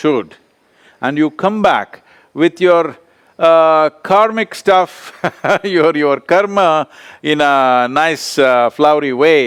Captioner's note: laughs